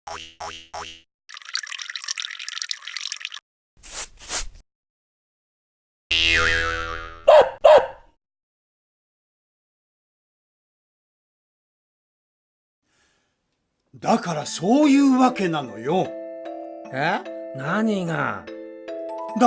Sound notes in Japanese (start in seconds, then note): 6.2 ビヨヨヨヨ〜ン ワンワン